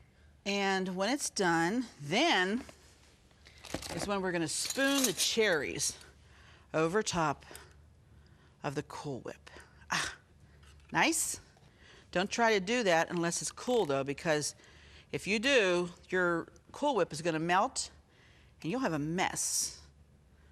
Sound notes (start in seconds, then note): 10.0 sighing